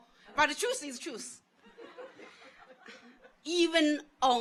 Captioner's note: audience laughs